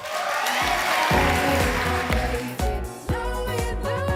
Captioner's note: audience applauds